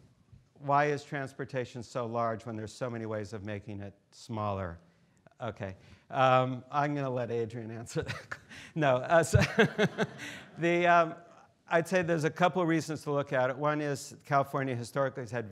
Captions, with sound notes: why is transportation so large when there's so many ways of making it smaller? Okay, I'm gonna let Adrienne answer. No answer (laughs) (students laughing) I'd say there's a couple of reasons to look at it. One is California historically has had